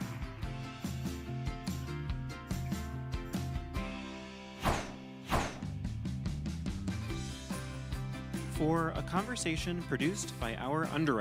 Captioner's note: applause